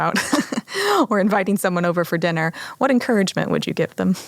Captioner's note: chuckles